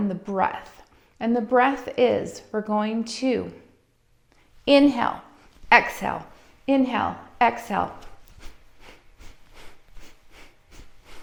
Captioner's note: inhaling And Exhaling